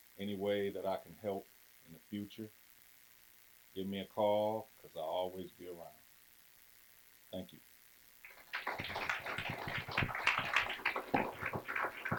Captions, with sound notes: and any way that I can help in the future, give me a call. 'cause I'll always be around. Thank you. (clapping)